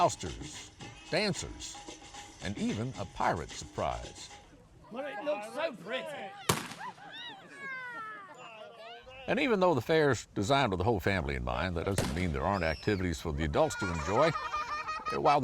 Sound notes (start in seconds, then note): 6.5 gunshot